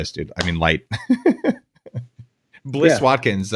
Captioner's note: laughs